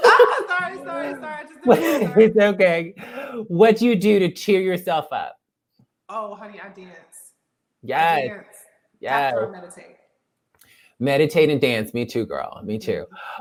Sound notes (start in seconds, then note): 0.0 laugh